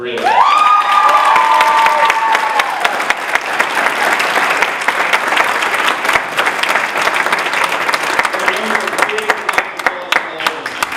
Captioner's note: applause